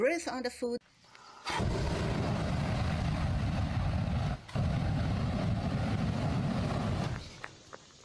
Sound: sound of flame

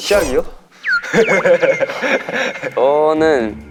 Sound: laughs

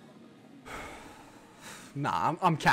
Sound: sigh

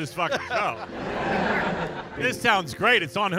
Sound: audience laughing

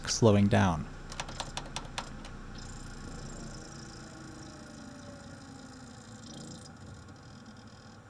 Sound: rapid button presses, disc rapidly slows as laser tracks

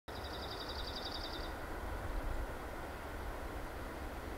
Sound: bird calls

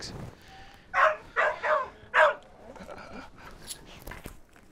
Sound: dog barking

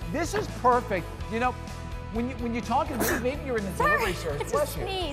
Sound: sneeze

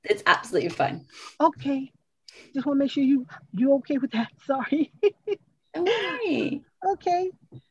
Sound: laughs

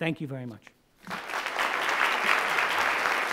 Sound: audience Clapping

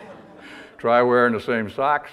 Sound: audience laughter

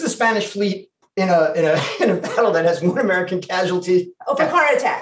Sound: laughs

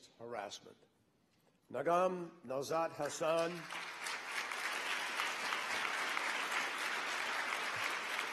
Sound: applause

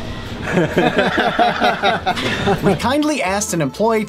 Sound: nervous Laughter

